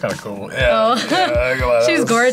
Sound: laughs

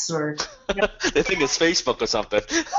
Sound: Dan laughing

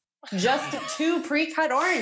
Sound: laughing

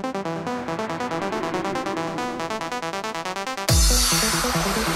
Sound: slow motion breathing sound

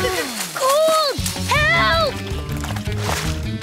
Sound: none

